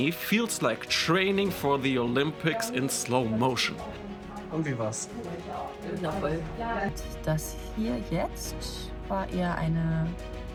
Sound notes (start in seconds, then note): 5.1 speaking in German; 9.1 upbeat music